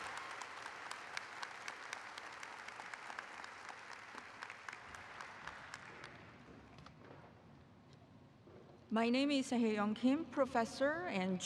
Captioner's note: applause